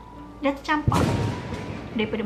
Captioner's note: thunder roaring